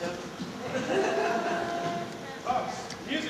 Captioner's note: soft laughter